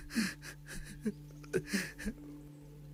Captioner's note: Crying